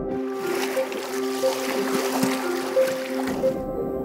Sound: water splashing

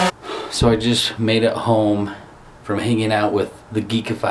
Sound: drone whirring; sighs

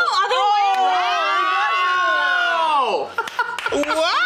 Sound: screaming

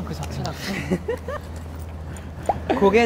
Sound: hehehehehe

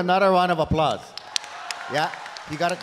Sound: audience applauding

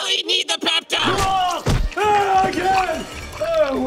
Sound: screaming

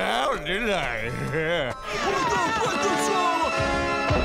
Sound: screaming

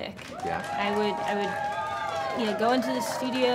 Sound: cheering, applause

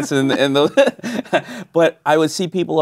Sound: laughing

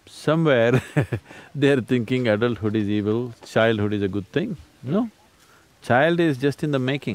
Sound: laughs

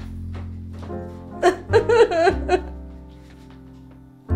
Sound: sobbing

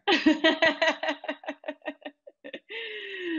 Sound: laughs

